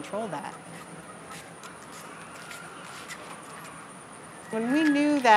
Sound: chicken clucking sounds from inside building

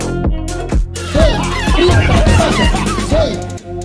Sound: laughter

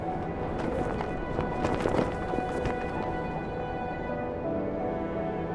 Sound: flag flapping in the wind

